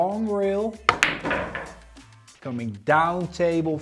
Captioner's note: pool ball hitting